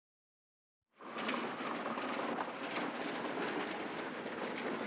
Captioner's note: wagon rattling